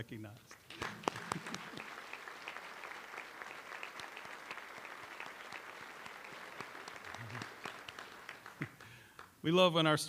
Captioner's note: applause